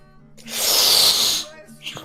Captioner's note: SkyDoesMinecraft starts to suck in saliva